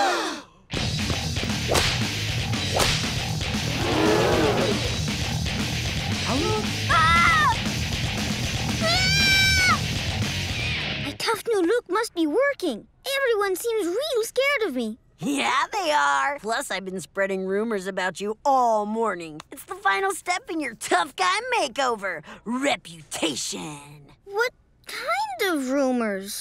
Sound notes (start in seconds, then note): 6.8 screaming; 8.8 screaming